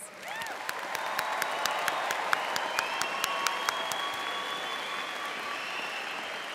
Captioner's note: audience applauding and cheering